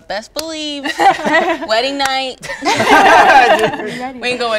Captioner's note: group laughs